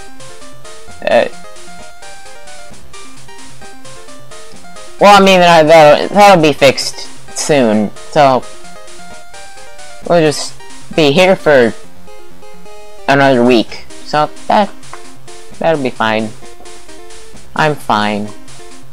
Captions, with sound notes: Uh. Well I mean [stammering] that'll be fixed soon. So… We'll just be here for… another week, so that… that'll be fine. I'm fine.